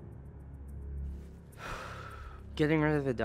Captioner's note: sighs